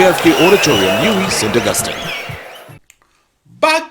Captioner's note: wild applause and cheering for 22 seconds